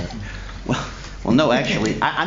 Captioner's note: laughter